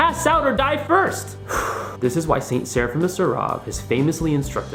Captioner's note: deep breath